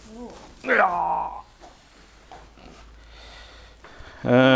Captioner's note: groaning